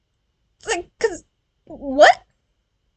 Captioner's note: noises of confusion